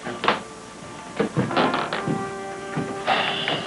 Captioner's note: footsteps receding; sighs